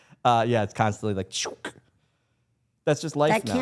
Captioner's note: imitates swooshing